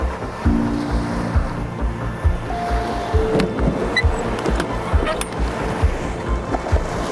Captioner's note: gentle music continues; waves crashing